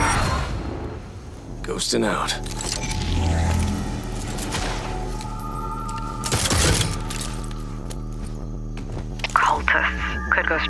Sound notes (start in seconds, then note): 0.7 vampire roars; 5.6 ominous music playing